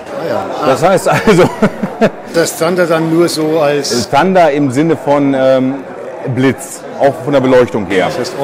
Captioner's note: laughter